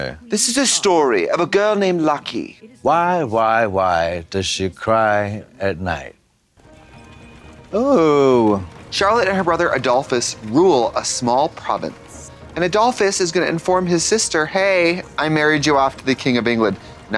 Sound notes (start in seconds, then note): 6.6 classical music; 6.6 horse and carriage rattling